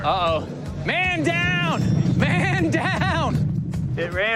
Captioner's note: chuckling